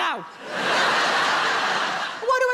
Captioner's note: audience laughing